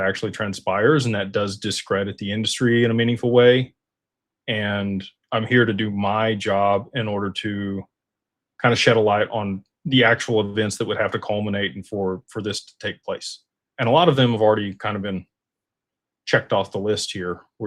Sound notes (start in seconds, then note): none